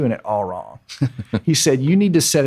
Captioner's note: laughing